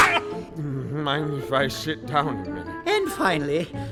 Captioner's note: slurred